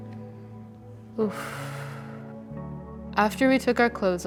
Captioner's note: woman exhales deeply